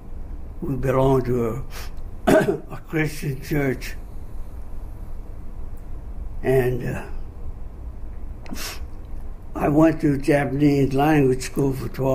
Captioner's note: clears throat